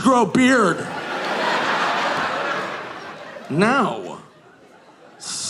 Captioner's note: audience laughing